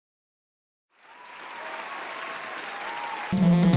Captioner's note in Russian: апладисменты